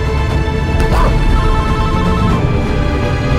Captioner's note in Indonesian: Telepon berbunyi